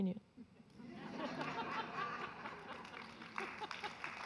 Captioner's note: audience laughing; audience applauding